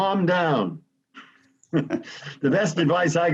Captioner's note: laughs